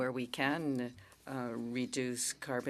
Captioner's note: speaking in French